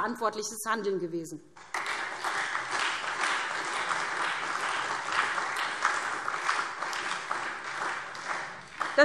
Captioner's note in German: Beifall SPD und Freie Demokraten